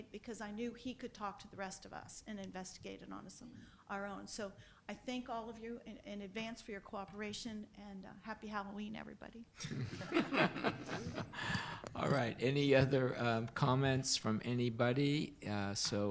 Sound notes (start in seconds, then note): 9.6 laughs